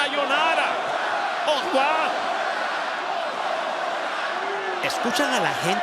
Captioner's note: applause